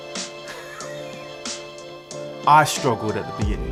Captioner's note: laughs